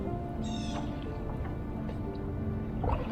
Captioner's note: Blue Jay calling